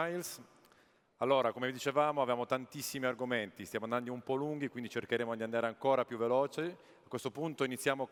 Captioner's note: speaking italian